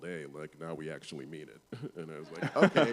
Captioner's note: laughter